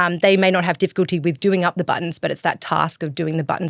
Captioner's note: none